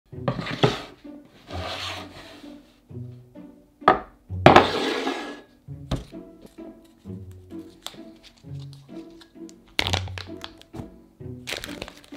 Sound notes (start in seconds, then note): 1.3 board sliding; 4.5 bowl sliding